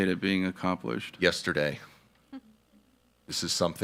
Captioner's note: attendees laughing